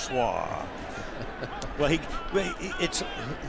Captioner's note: laughs